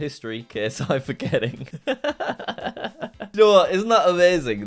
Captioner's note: laughs